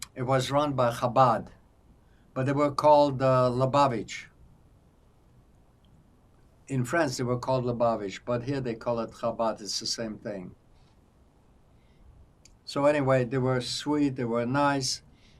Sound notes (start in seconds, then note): none